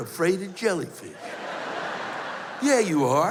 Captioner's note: laughter